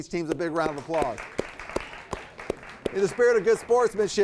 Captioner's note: audience applauding